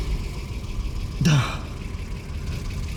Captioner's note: exhales